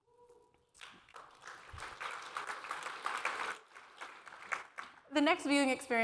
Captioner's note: applause